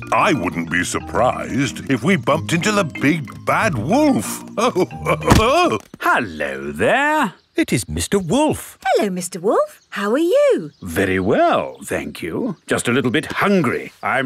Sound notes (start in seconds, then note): 4.2 chuckles